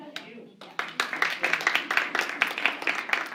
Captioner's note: applause